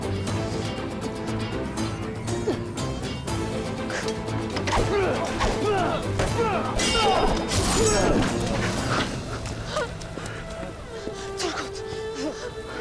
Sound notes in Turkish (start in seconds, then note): 3.8 Dövüş sesleri